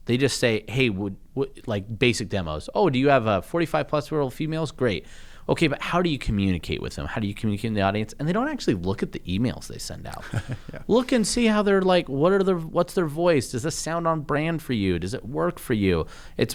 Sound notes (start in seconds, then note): 10.2 laughter